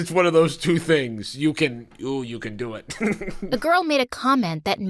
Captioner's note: laughs